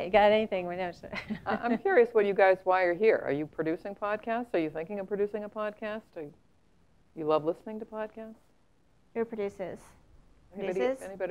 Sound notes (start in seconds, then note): 1.1 laugh